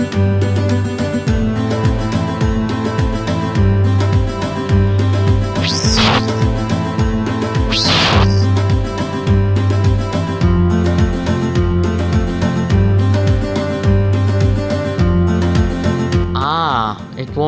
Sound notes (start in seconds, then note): 5.6 fwhirrrrrrrr!!; 7.7 fwhirrrhhiirrrr!!!